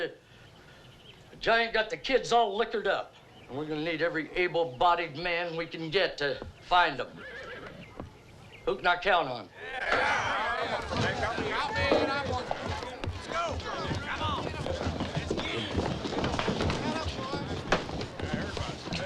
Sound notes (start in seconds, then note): 9.5 men clamoring; 9.7 chairs scraping; 17.6 feet scuffing